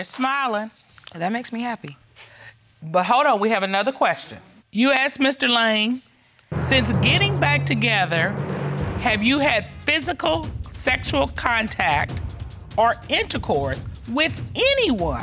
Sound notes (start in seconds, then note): none